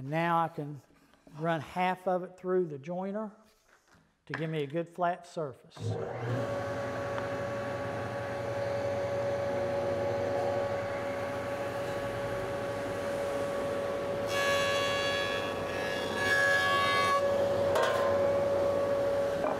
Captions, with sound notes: and now I can run half of it through the joiner to give me a good flat surface. (joiner motor running) (joiner cutting through wood)